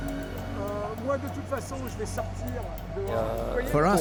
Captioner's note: man speaking French